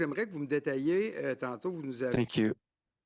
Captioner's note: speaking French